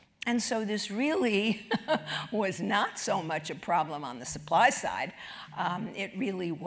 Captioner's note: laugh